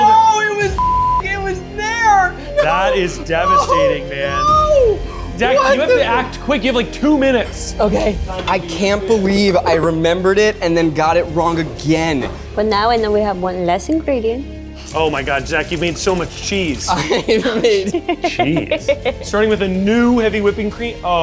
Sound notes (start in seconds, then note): 16.6 laughs